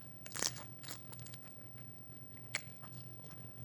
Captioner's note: crunching crab